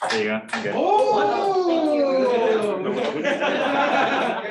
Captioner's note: shouting and laughing